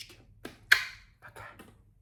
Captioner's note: kissing sound